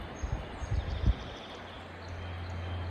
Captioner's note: bird call